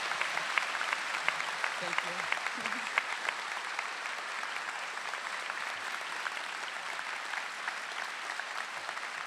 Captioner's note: applause